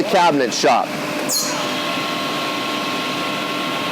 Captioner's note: motors hum